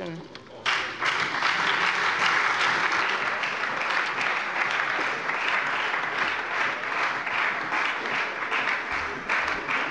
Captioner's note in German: Beifall bei der FDP und der SPD